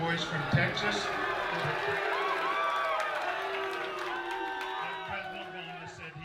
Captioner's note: audience cheers and boos